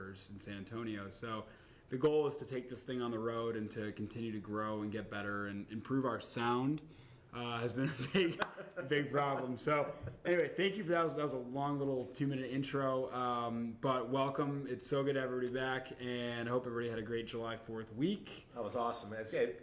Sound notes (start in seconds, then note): 10.0 laughter